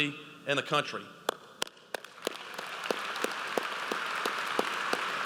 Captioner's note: audience applauds